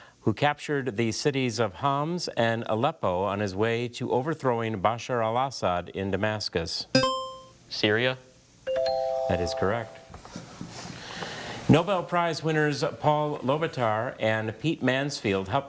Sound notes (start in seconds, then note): 7.0 buzzer chimes; 8.7 bell chimes